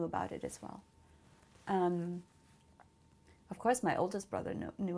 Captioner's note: pauses for 3 seconds